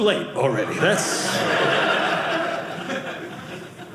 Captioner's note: audience laughing